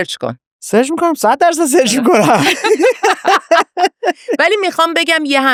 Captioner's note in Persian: خنده